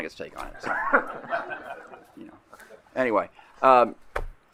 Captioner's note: laughter